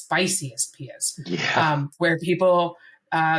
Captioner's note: laughs